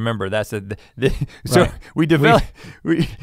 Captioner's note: Rhett laughing